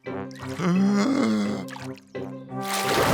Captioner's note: takes a deep breath